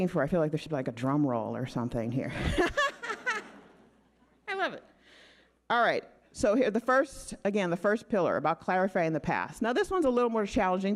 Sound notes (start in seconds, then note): 2.4 laughing